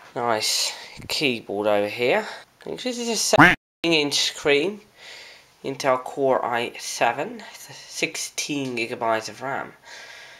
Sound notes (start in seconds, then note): 3.4 quack